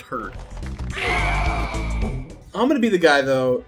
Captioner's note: Smash killing noise